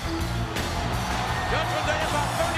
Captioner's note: crowd cheers